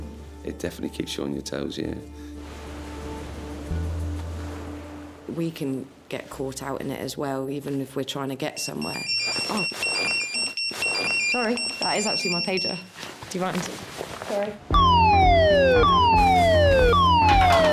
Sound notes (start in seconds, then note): 2.4 waves crashing; 8.5 pager beeping; 14.7 alarm blaring